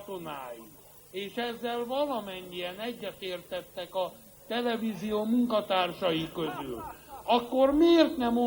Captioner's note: laughs at the audience